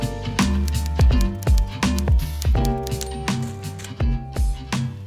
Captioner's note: typewriter clicking